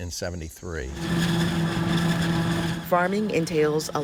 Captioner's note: farm machine whirring